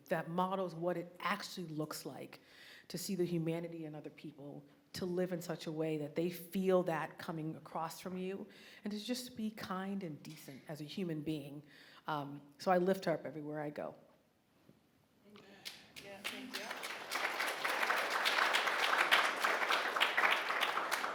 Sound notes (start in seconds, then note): 17.3 audience applauding